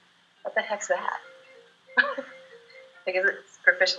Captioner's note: chuckles